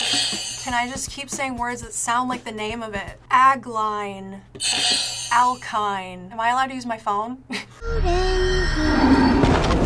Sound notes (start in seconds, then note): 0.1 bell rings; 4.6 bell rings; 8.0 laughs